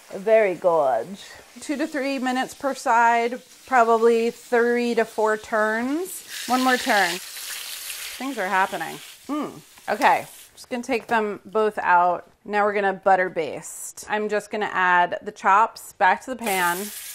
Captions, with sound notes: Very gorge. Two to three minutes per side, probably three to four turns. One more turn. [sizzling] Things are happening, mm. Okay, I'm just going to take them both out. Now we're going to butter baste. I'm just going to add the chops back to the pan.